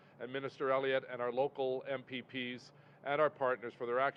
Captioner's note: speaks French